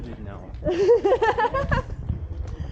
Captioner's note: laughter